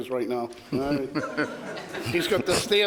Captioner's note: crowd laughs